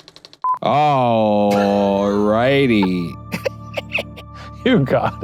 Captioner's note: beep; film reel clicking; both laughing